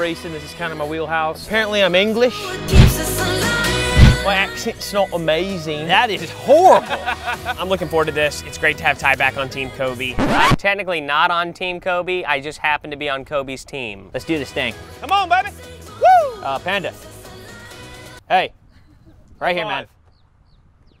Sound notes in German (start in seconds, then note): 6.7 gelächter